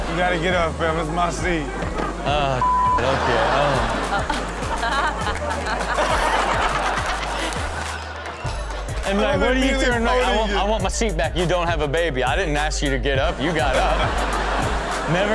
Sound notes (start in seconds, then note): 4.0 crowd laughs; 6.4 everyone laughs; 13.2 crowd laughs